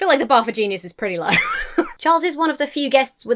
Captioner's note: laughs